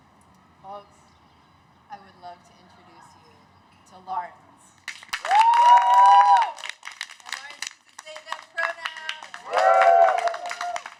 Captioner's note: cheers